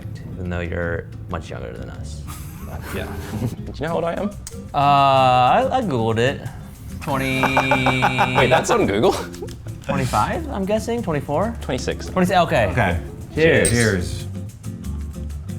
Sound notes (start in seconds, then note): 6.8 laughs